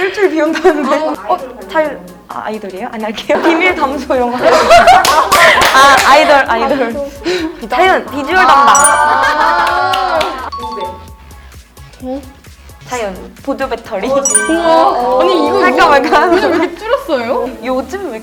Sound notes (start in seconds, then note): 4.3 laughter